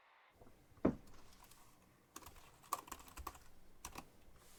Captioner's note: keys clicking